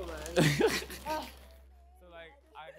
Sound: laughs

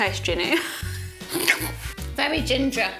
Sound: both laughing

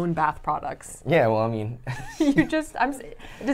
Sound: laughs

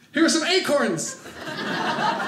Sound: audience laughing

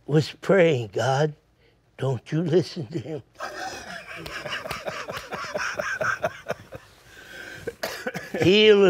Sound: laughs

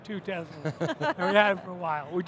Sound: laugh

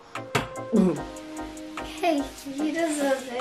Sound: gags

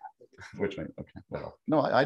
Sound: mutters

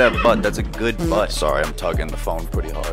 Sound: fart toots

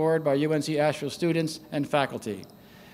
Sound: none

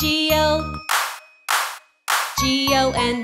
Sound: claps, claps, claps

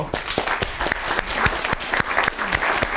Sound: applause

